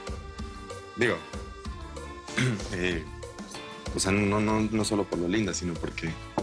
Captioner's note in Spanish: Carraspea